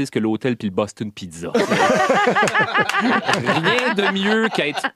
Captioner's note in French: rires